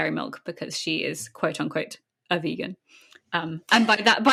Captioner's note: laughs